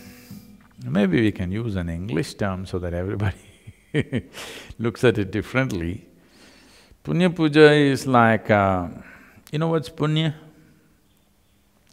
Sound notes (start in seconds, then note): 3.3 laughs